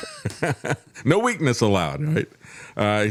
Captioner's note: laughing